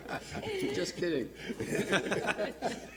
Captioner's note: laughter